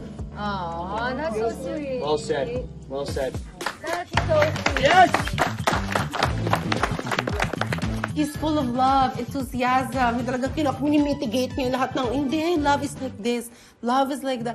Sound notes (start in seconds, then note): 5.6 clapping; 5.6 upbeat music playing